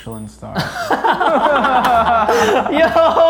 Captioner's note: laughing